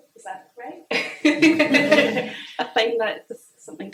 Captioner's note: all laugh